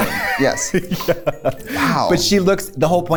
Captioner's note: laughs